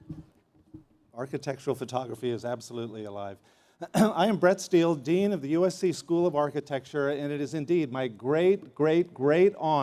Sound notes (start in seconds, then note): 3.9 laughter